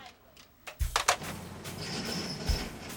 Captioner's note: phone clacking; metal clanking